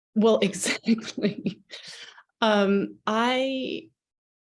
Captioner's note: chuckles